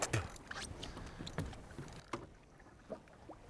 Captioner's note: spits